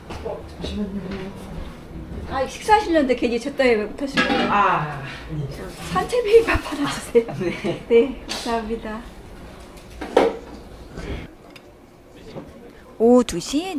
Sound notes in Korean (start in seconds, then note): 6.7 웃음; 11.0 콧방귀